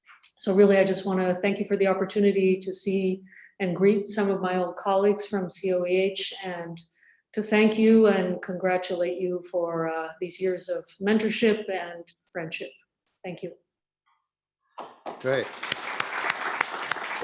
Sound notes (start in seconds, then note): 14.8 applause